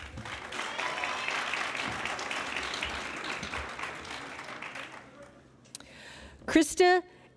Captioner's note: applause